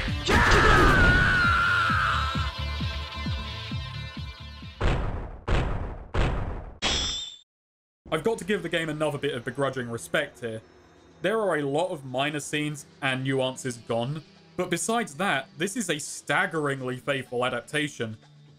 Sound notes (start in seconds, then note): 4.8 don-don; 6.7 don-don-don-shwoosh